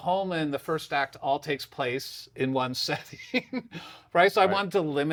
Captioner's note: laughs